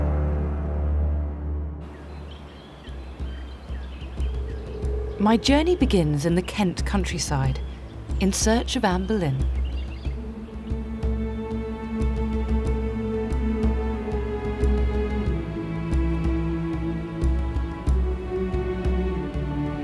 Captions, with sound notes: (birds chirp) (soft dramatic music) My journey begins in the Kent countryside in search of Anne Boleyn.